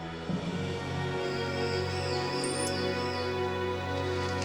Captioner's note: animals screeching